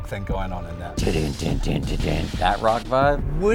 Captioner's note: imitates rock music